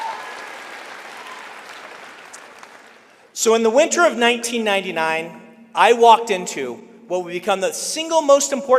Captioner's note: applause